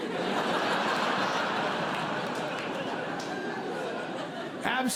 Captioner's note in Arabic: ضحك